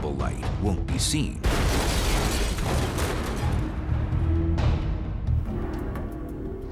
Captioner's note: blast sound